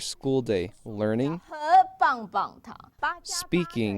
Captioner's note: speaking chinese